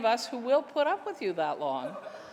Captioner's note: laughter